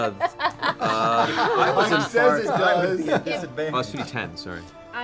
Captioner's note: laughter